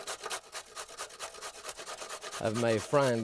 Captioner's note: carrot scraping